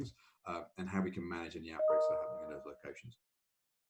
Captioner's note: computer notification rings